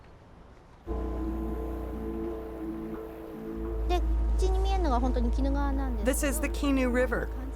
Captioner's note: speaking Japanese